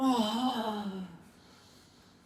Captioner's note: moaning